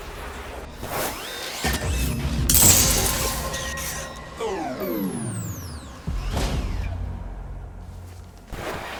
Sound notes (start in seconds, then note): 1.2 dramatic music; 2.4 glass shattering; 5.7 dramatic music